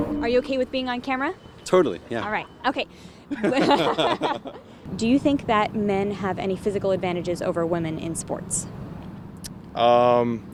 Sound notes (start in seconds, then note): 3.3 both laughing